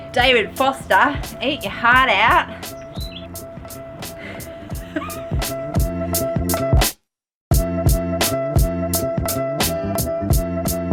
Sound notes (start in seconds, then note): 4.0 laughs; 5.8 upbeat music